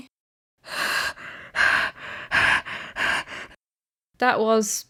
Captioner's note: heavy breathing